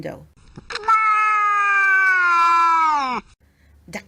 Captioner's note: cat yowls